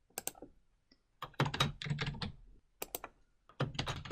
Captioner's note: keyboard sounds